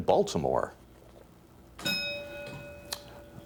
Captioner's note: ding